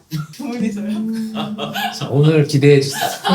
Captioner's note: the room murmurs at the sudden set-up